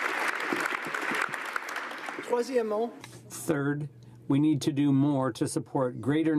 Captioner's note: applause